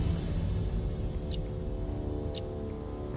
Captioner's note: clock ticking